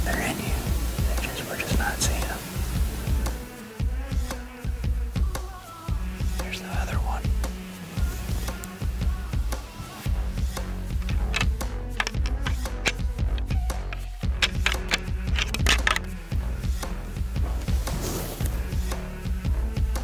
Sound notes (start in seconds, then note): 3.2 energetic music; 11.7 antlers rattling